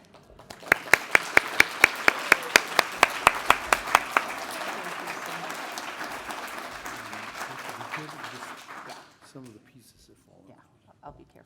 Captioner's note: applause